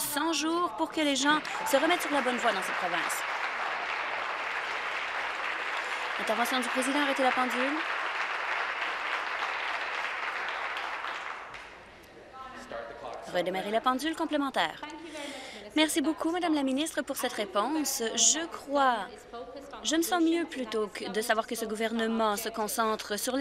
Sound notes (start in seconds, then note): 4.0 applause